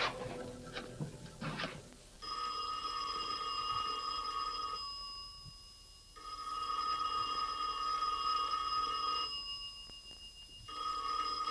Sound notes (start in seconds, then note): 2.2 telephone ringing